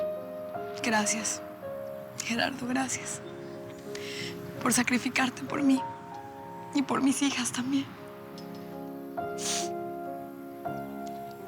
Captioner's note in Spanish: llorosa